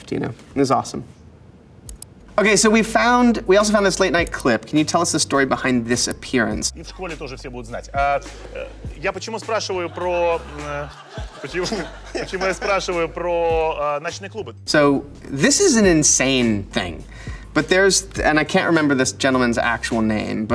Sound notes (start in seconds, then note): 6.9 host speaking in foreign language; 9.7 audience laughing; 10.8 Elijah chuckles